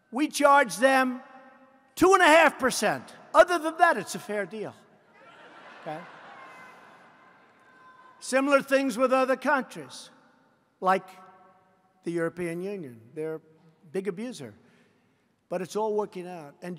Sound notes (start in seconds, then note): 5.2 laughter